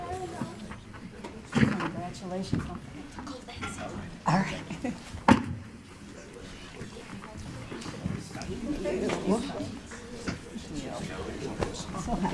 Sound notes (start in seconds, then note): 2.6 overlapping muttering